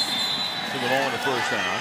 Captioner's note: whistle